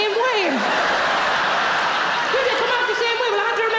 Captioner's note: audience laughing